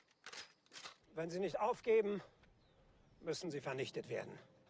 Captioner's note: speaking in german